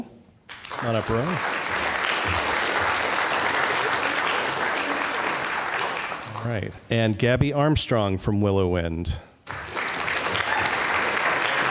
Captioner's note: applause